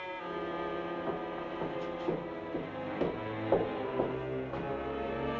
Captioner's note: footsteps